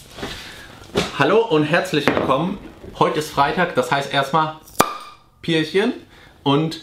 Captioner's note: opens beer